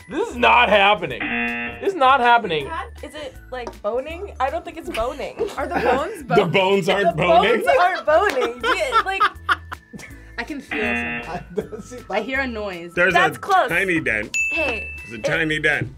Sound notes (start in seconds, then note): 1.1 buzzer; 7.4 both laugh; 10.7 buzzer